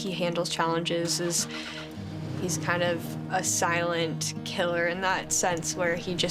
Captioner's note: car cranking